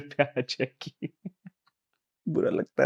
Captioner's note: laughing